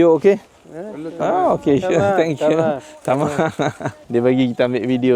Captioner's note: speaking Arabic